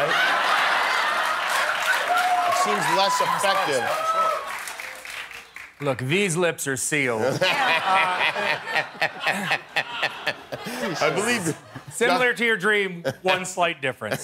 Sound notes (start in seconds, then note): 7.3 laughing